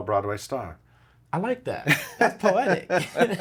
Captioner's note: laughs